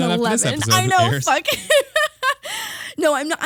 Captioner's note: laughing